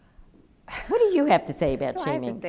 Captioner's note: laughs